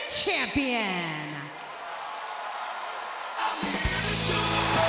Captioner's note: audience cheering